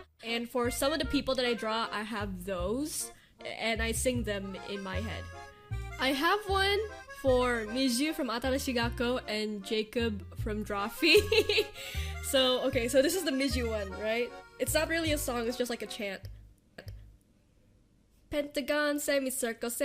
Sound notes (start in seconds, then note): 11.0 laughter